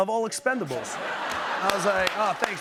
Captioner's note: laughter; normal voice